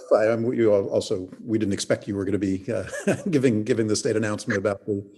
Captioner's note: chuckles